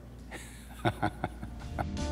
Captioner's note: laughs